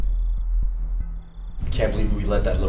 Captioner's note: crickets chirping